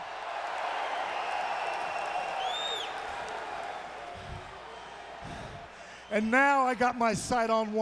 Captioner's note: crowd cheering